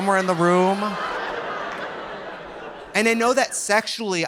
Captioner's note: audience laughing